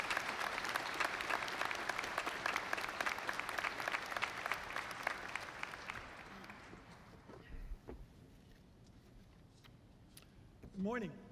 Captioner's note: applause